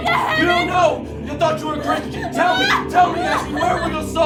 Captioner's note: Ashley screaming